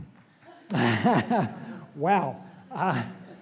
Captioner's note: laugh